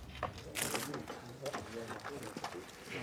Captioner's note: soft voices